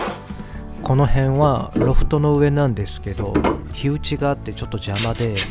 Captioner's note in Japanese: 鼻息